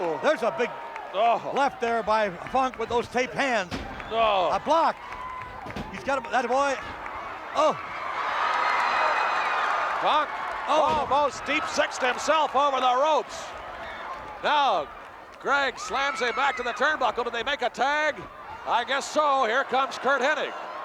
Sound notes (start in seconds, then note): 5.9 applause